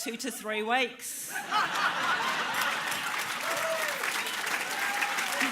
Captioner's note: laughter, applause